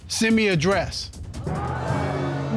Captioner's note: audience gasping